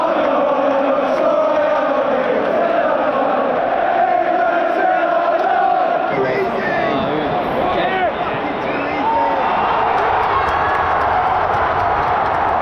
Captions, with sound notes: I know I'm sure I am. I'm England 'til I die. England 'til I die. (crowd chattering) (crowd cheering)